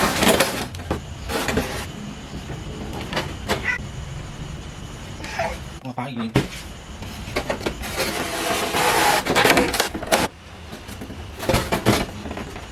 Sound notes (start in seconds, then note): 3.5 meow; 5.2 meow